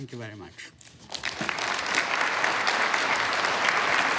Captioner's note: applause